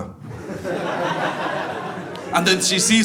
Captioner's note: audience laughs